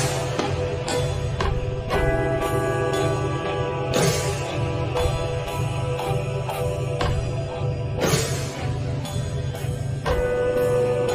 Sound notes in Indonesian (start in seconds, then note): 2.0 lonceng